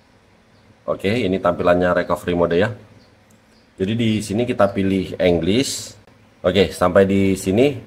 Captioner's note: English